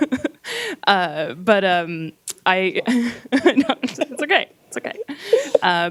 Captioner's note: laughing; laughs